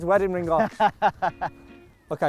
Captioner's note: laughing